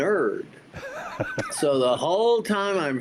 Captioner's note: laughs